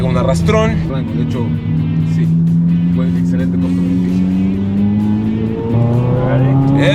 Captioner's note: engine revving